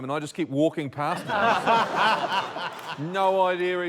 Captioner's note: laughter